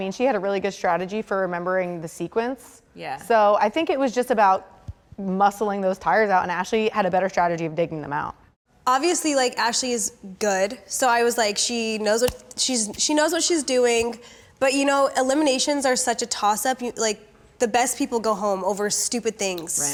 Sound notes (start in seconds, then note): none